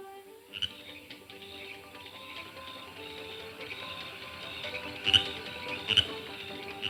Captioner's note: frog croaking; upbeat nostalgic music